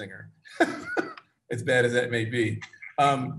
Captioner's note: chuckles